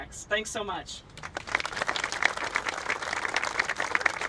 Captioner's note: applauding